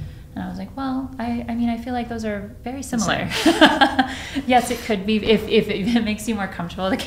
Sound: laughs

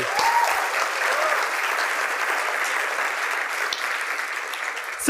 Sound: applause

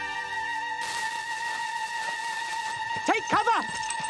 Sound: flame Sizzles

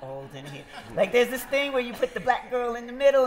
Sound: laughter

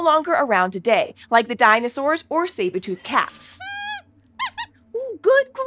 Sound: squeaks squeaking

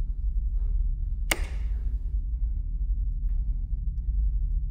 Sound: light switch clicks

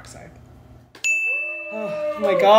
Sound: ding

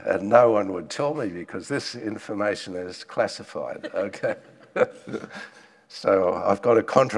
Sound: laughs

